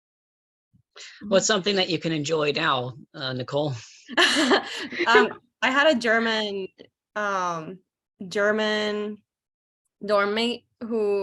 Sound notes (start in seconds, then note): 4.1 laughs